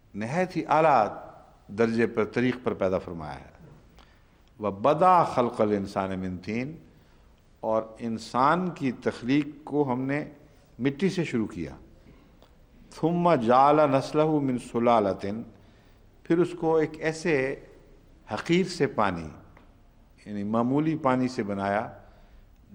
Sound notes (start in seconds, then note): 4.5 Arabic; 13.0 Arabic